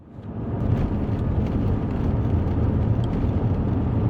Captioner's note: engine rumbling